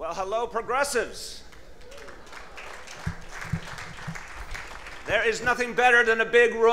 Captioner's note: cheers and applause